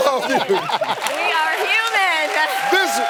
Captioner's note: laughs